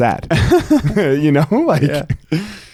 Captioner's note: chuckling